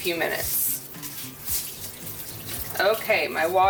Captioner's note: water splashing